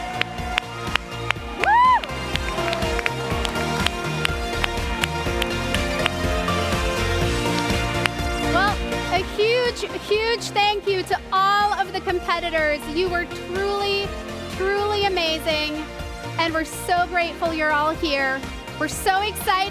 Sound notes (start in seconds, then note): 0.0 cheers and applause